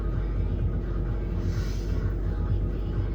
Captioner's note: deep breath